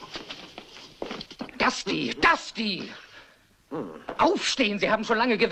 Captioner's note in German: grunzt